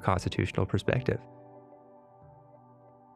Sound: pause

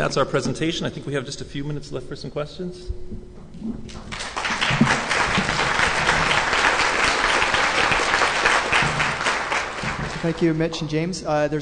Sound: applause

